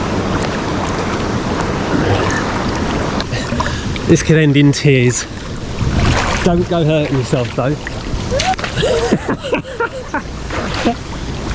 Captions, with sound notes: This can end in tears. Don't go hurting yourself though. [LAUGHS]